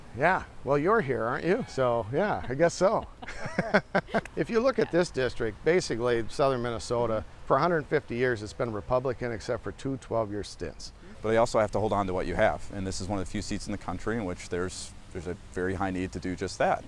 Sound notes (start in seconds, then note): 2.2 laughter